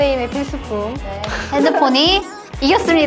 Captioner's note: laughter